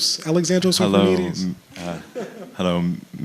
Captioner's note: chuckles